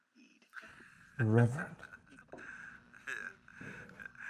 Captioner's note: Headhunter laughs